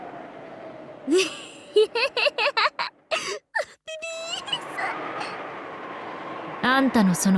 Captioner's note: giggle